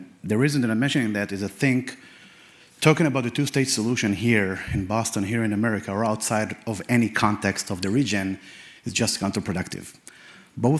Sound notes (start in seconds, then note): none